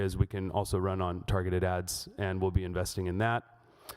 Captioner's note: none